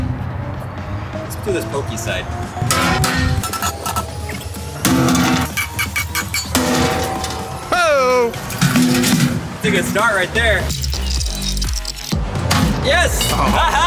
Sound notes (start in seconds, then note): 2.6 hammer clangs; 10.6 upbeat music